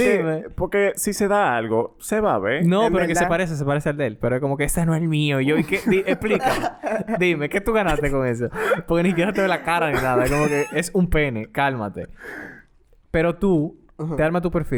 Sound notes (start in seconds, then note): 12.6 laughs